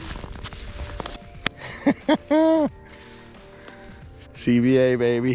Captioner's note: laughs